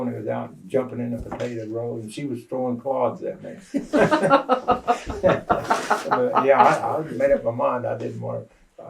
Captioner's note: laughter